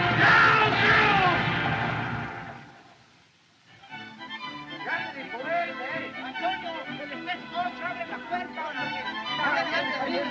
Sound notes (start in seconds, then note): 4.9 men Speaking Spanish